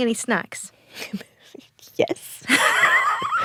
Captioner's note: both laugh